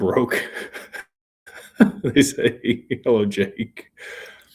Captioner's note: laughter